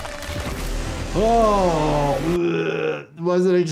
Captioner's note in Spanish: se atraganta